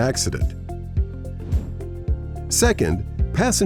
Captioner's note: bright music; graphic whooshing